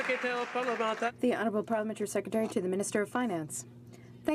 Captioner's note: some Applause